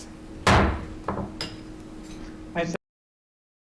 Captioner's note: gavel banging